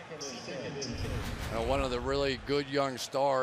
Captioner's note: swoosh